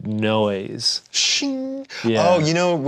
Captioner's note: mimics metal chime